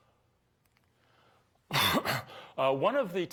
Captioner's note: coughs